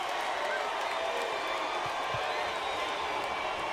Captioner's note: crowd cheers